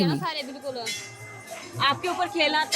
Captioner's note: indistinct conversation